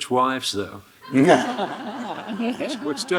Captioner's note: Hiroshi laughing; audience laughing